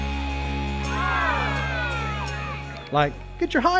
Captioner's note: crowd cheering